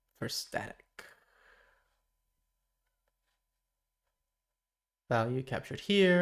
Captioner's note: silence